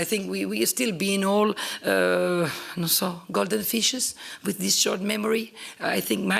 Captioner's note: italian